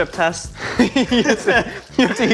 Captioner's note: laughing